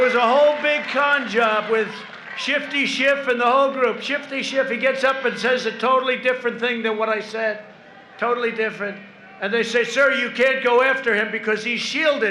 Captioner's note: applause